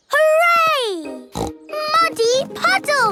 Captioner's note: snorting